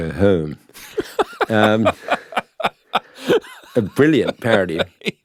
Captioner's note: laughing